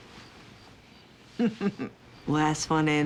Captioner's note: laughs